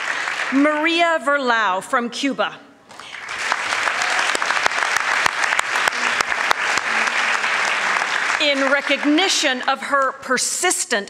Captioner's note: applause